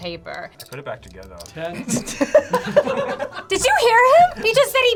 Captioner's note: laughs